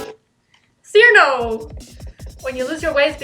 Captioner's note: excitedly